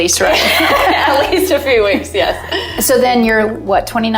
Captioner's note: laughing